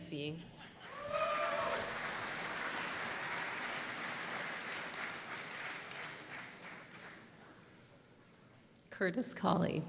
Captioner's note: applause